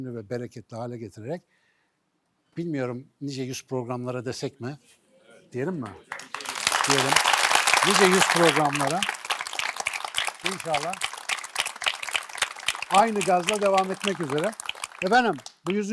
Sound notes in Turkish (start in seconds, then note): 6.6 alkış